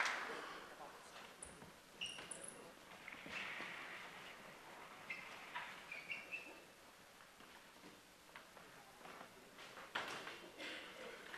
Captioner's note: applause